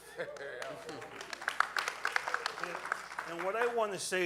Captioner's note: audience cheering